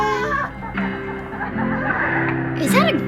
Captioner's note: in video: woman laughs in disbelief